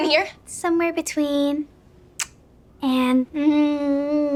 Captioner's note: lips smacking; moaning